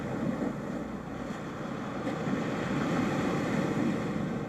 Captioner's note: waves crashing